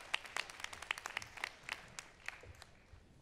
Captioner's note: applause